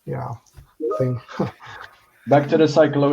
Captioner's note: chuckles